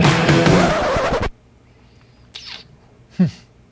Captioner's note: record scratches; laughs